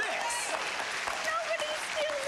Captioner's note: cheers and applause